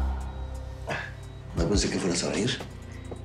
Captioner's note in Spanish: Quejido